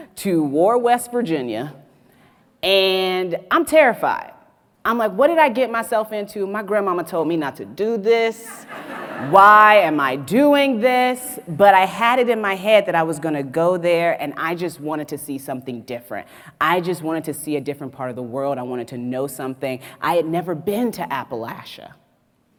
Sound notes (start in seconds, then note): 8.5 audience laughs